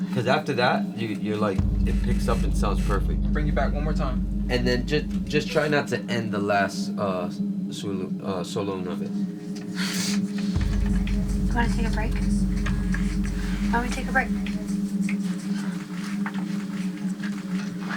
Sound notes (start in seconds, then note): 9.6 sniffling